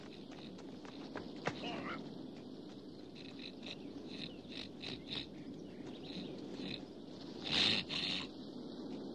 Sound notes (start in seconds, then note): 3.1 Kiog snorting